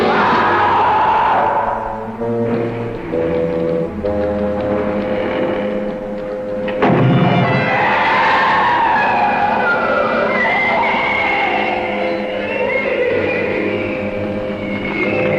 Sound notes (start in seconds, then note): 0.0 Marty screams; 6.9 flare gun shooting; 7.3 monster screaming